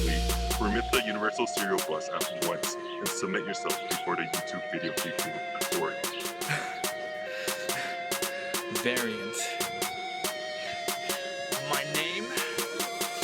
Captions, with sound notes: Remit the universal serial bus at once And submit yourself before the YouTube Videokeeping Authority *chuckling* "Variant." My name...